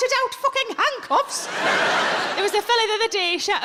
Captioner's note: audience laughs